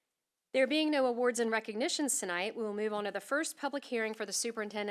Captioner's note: none